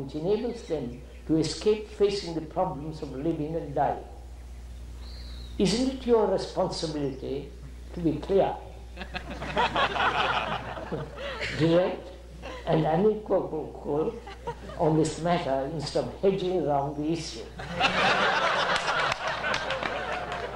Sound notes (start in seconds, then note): 8.9 laughter; 17.5 laughter